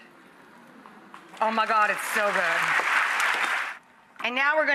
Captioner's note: clapping